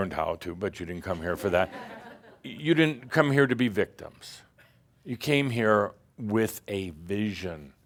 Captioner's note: some chuckles